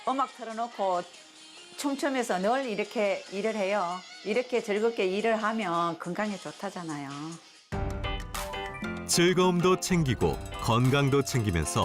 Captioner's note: voiceover